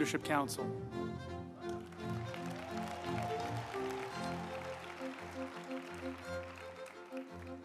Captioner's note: uplifting music; group applauding